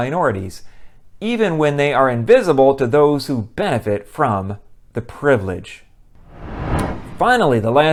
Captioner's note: swoosh